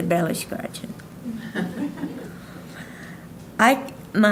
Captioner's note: audience laughing